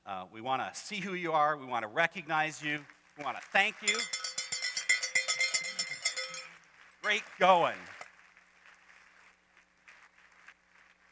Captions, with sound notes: We wanna see who you are, we wanna recognize you-- [applause] >>we wanna thank you. [cowbell clangs] Great going.